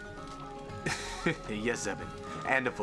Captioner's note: laughing